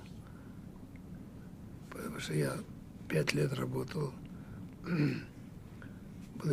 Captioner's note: clears throat